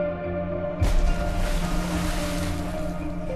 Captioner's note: splashing